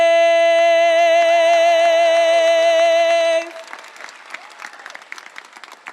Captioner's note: audience applauding and cheering